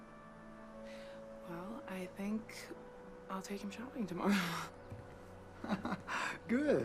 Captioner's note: chuckling